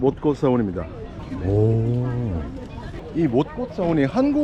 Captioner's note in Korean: 감탄